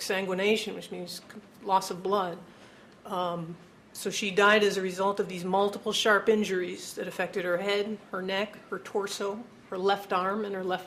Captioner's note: sighs